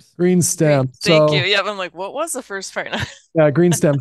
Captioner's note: laughs